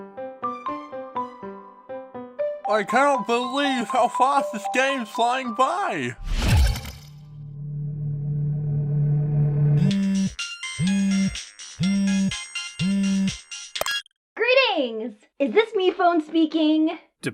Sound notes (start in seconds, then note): 0.2 upbeat music; 6.3 wam!... music tenses; 9.8 incoming phone call vibration?!; 13.8 click!